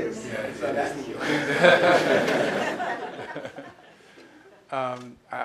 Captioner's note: audience laughter